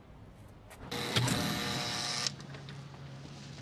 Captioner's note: door buzzing